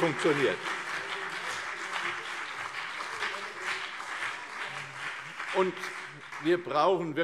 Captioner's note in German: Beifall